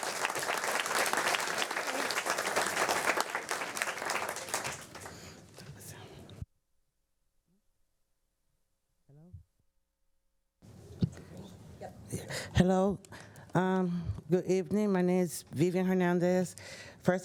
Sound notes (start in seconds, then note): 4.5 applause